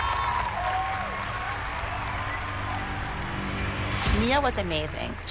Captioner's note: cheering